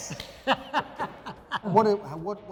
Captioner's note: laughing